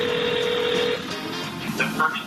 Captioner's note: phone ringing